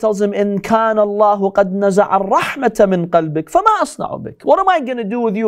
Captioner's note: Arabic